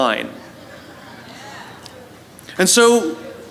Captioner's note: La audiencia se ríe